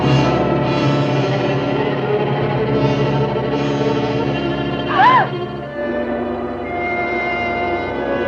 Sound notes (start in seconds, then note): 3.6 gasps